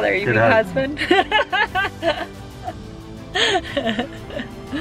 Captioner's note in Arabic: يضحك